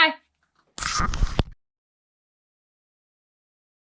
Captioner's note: crackles